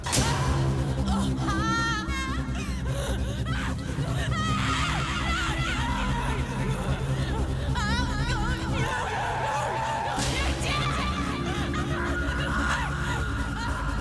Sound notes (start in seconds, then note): 0.2 suspenseful music; 1.8 screaming; 11.6 screaming